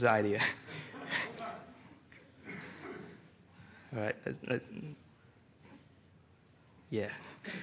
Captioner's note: chuckling; laughter